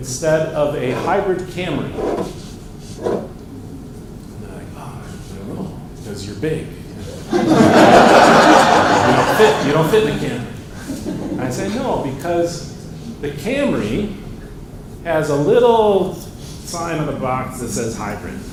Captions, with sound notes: of a Hybrid Camry? And they're like, oh, I don't know. Because you're big. [ Laughter ] And you don't fit in the Camry. I say, no, because the Camry has a little sign on the box that says hybrid.